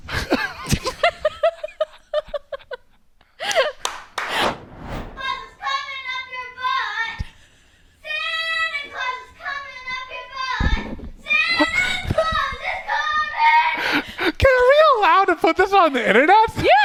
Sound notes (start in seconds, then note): 0.3 laughing; 3.4 clapping